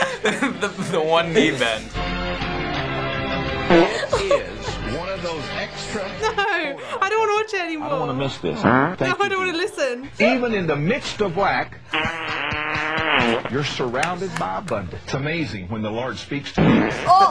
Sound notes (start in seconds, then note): 3.6 preacher farts; 8.6 farts; 11.9 farting; 16.5 sudden fart